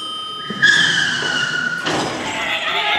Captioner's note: car sweres and crashes